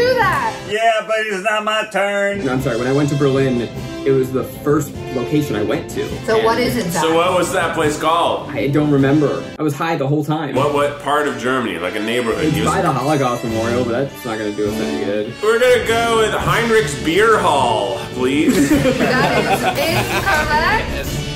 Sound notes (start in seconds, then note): 18.2 laughing